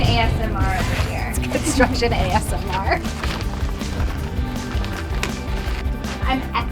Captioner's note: laughs